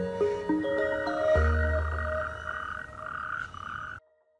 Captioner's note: frogs croak